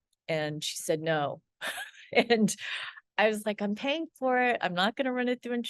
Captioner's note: laughs